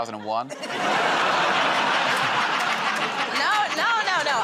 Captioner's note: laughter